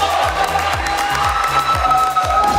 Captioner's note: clapping